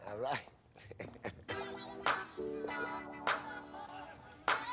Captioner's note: laughter